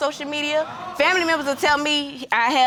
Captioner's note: audience exclaims